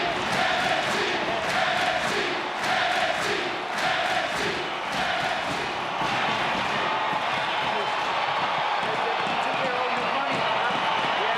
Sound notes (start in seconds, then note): 2.4 crowd cheers and chants; 6.8 wrestlers chatter